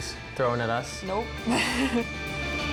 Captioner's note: laughs